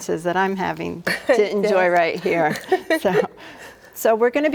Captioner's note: laughs